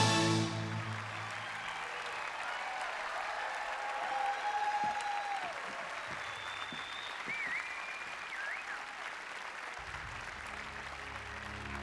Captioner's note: applause